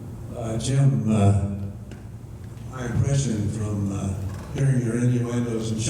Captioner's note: voiceover